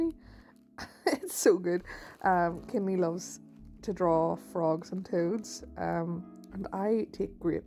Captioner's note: chuckle